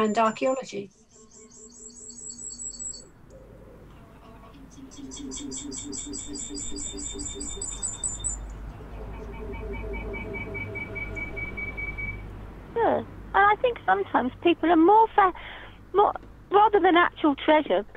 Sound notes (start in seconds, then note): 1.4 reverb